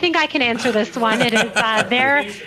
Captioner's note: laughter